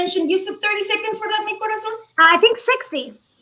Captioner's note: speaking foreign language